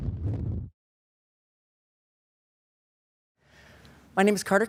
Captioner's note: silence; whoosh